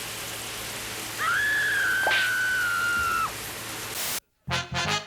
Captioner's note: woman screaming